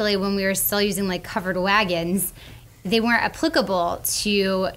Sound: none

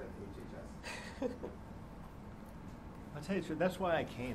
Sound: laughs

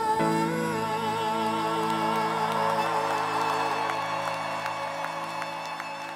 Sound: crowd cheers

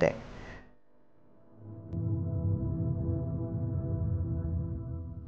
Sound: ground rumbling

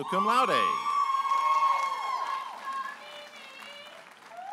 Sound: audience applauding and cheering

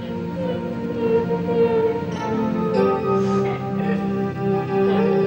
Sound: weeping

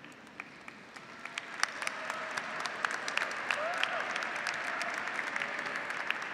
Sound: audience, graduates, and faculty applauding

